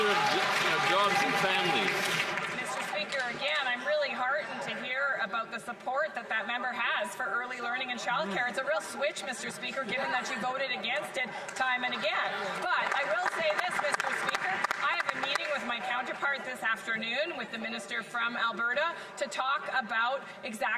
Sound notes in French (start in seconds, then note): 7.2 voix de l'interprète